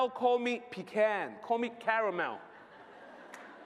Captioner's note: laughter